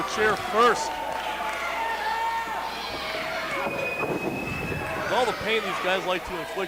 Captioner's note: crowd members cheer